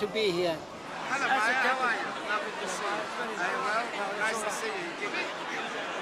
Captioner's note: chatter